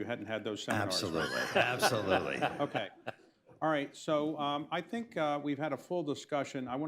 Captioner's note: laughter